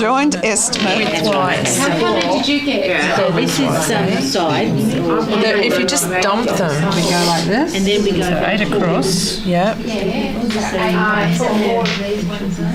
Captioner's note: audience chatter